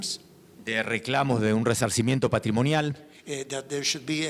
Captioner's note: speaking in foreign language